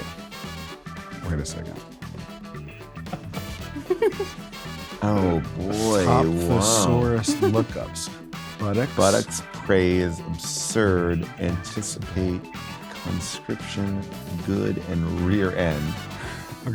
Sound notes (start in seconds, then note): 3.0 laugh; 3.2 jazzy music